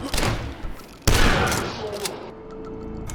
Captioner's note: bam